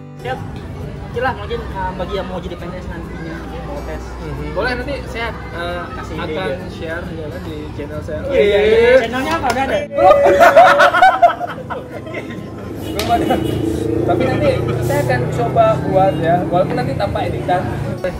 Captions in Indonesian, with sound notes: so, what you wanna say for next generation who'll following your way to be lecturer? Probably, I'll share it on my channel youtube what's your channel? i have't make it yet (laugh) i haven't make it yet. but, i would try to realize it, even with minor correction